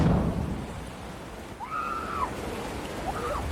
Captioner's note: excited screaming